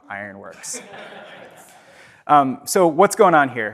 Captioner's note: audience laughs